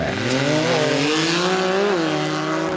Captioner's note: buggy revving